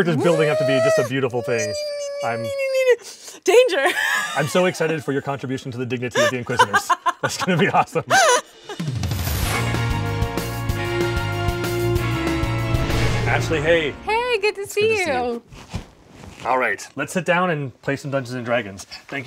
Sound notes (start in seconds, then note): 1.7 squealing; 6.1 laughing; 8.3 dramatic music